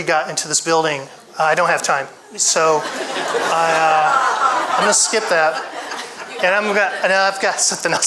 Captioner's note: audience laughs